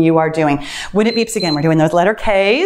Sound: timer beeps

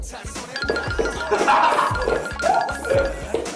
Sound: laughs

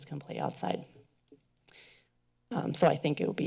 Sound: pause

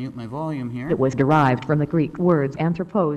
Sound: female voice

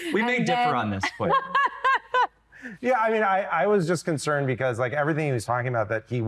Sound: laughter

